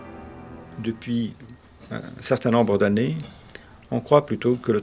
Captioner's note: speaking French